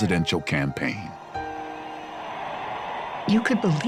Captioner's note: crowd cheering